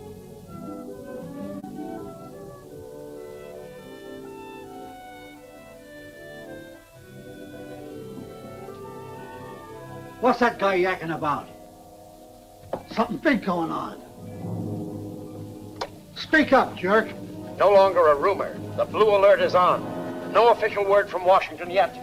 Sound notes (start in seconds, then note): 0.3 dramatic music continues; 14.7 suspenseful music; 15.6 switch clicks